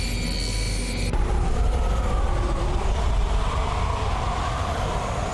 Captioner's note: wind whooshing